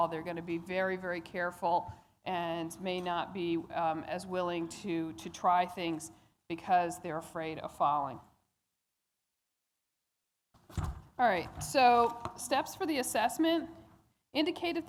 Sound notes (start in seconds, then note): none